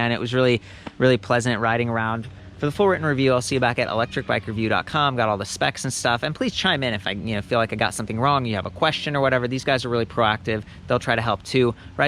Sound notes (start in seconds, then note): 3.0 child yells in the distance